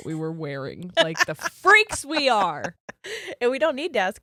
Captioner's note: giggles